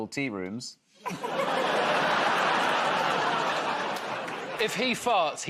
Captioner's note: laughter